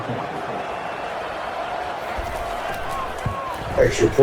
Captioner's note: crowd Noises